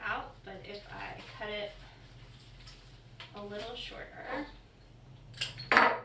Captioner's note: knock